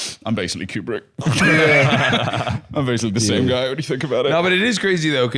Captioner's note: laughs